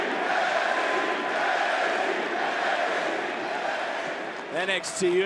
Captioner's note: crowd chants "nxt"